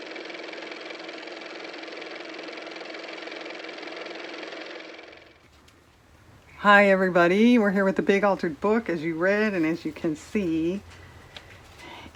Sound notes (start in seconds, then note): 5.4 car motor